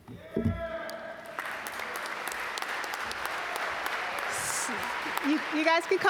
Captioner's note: audience cheer and applaud